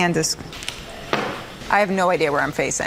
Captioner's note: bottle drops